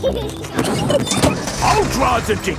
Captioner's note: peppa and george laughing